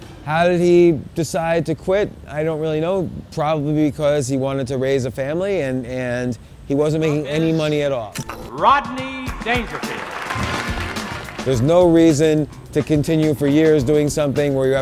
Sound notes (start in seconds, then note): 9.2 audience cheering